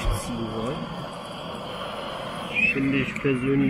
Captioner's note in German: rauschen